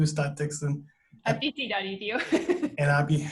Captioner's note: laughs